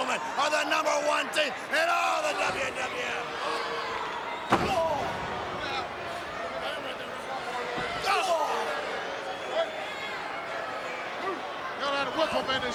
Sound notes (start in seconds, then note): 4.5 Bulldog groans; 4.5 Bulldog thuds; 8.0 Bulldog groans